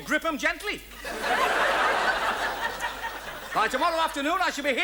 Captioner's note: audience laughs